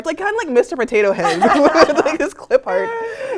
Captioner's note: laugh